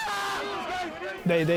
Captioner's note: screaming